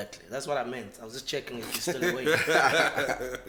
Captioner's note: laughs